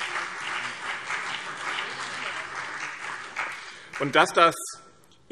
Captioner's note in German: Beifall BÜNDNIS 90/DIE GRÜNEN und CDU